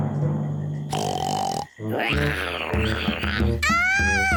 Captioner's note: oinks and roars